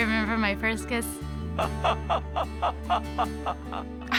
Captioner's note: laughing